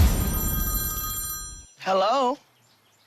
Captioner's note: telephone rings